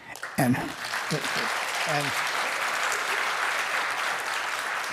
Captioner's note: applause